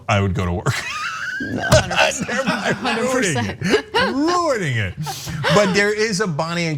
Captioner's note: laugh